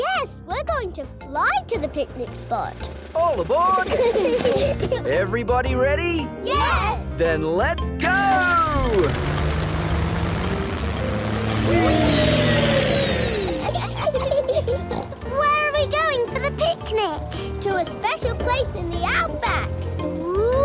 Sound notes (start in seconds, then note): 3.7 children giggle; 13.3 laughs and snorts